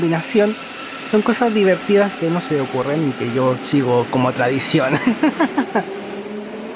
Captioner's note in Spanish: risas